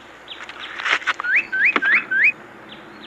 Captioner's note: bird tweets